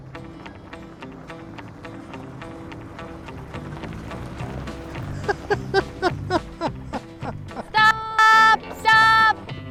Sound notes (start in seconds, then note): 0.2 soft Music; 4.9 laughing